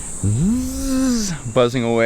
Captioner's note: buzzing sound